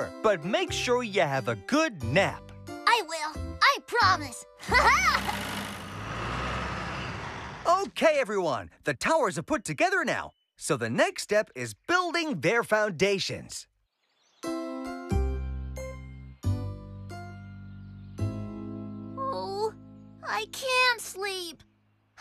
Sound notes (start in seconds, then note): 4.6 laughs